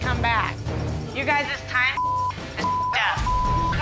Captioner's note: beep